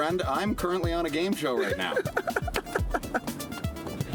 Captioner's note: laughing